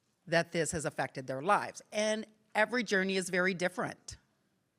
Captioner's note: none